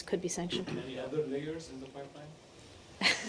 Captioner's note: laughter